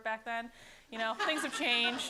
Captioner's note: laughter